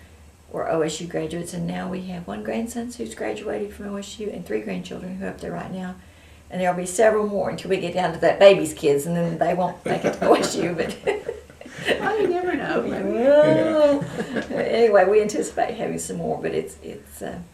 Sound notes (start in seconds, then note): 11.4 laughter